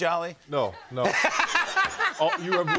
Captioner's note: laughter